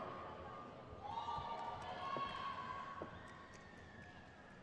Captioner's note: crowd cheers